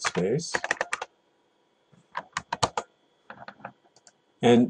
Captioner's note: typing